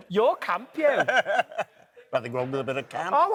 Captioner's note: laughs